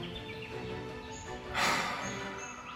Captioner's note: big sigh